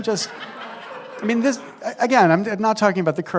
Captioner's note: laughter